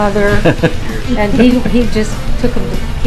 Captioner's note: host laughs